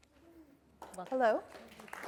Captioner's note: applause